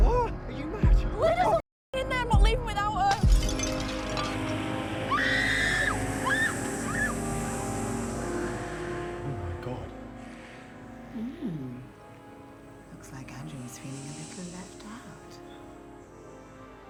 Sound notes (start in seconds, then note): 4.0 snake hissing; 5.0 screaming